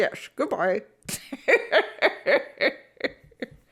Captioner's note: cackles